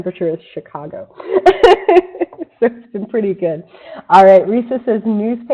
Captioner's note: laughs